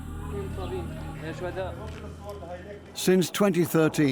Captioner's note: man speaks Kurdish